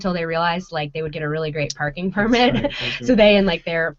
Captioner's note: laughing